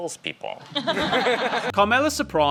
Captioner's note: laughing